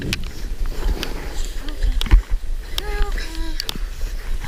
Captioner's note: heavy breathing